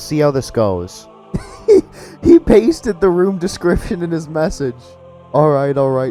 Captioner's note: laughs